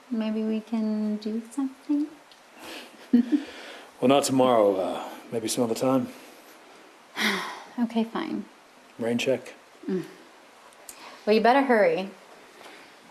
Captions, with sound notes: Maybe we can do something. [chuckles] Well, not tomorrow. Maybe some other time. [sighs] Okay, fine. Rain check? Well, you better hurry.